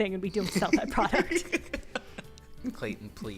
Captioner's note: laughter